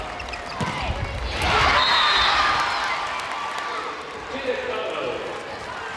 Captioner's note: crowd cheering; whistle blows